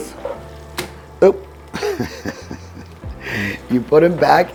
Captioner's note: laughing